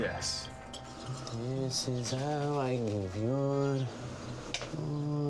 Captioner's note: singsongy